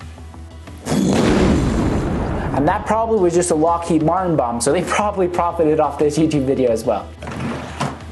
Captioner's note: explosion